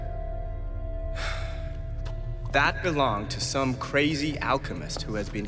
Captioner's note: sighs